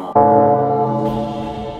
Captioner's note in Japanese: 鐘の音